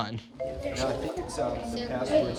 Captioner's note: indistinct chatter